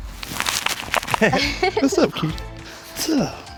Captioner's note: laughing